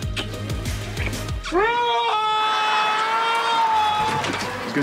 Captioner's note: screaming